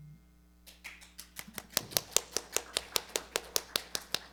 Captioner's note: audience applauding